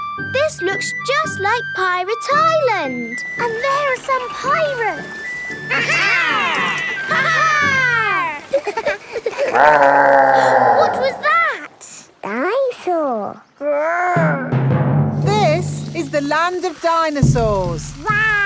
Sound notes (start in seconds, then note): 9.1 laughing; 10.1 growling; 10.9 gasps